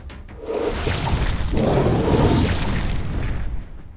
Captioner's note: magical buzzing; dragons roar